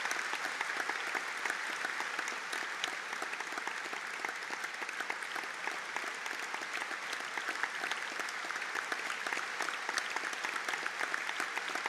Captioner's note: audience Applause